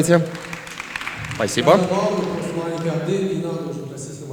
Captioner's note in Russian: аплодисменты